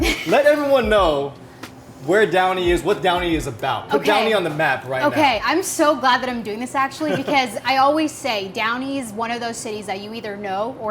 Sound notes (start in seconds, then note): 0.0 Megan chuckles; 7.0 chuckles